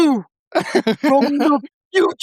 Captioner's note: laughing